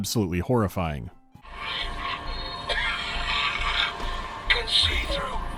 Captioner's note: wheezing, coughing and retching